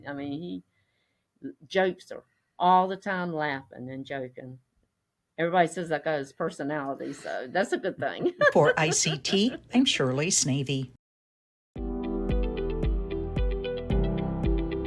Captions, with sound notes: I mean, all the time laughing and joking. Everybody says I got his personality. So that's a good thing (chuckles). - For "ICT," I'm Shirley Sneve. (bright music)